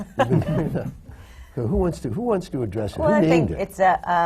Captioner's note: laughs